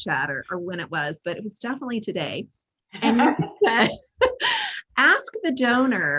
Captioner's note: everyone laughing